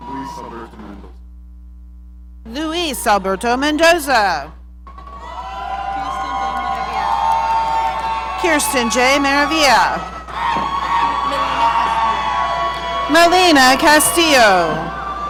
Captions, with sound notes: - Louis Mendoza. - Louis Alberto Mendoza. (audience cheering) Kirsten J. Maria. (audience cheering) Melina Castillo.